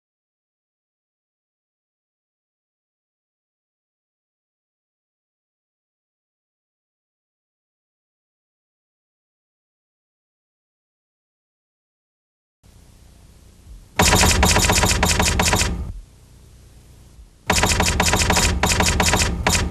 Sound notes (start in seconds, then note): 12.6 static